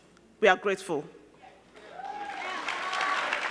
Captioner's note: crowd cheering; crowd clapping